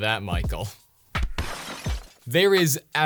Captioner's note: loud crash